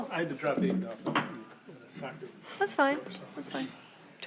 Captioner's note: speaking faintly